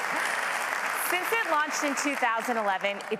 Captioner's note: applause